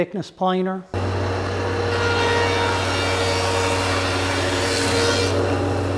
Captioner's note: thickness planer cutting